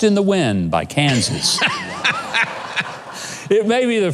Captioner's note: laughs